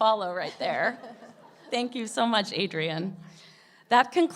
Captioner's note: laughs